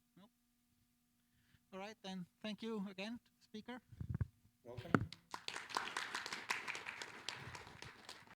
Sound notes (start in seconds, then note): 6.7 applause